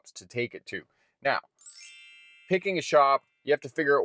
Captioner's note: bells chiming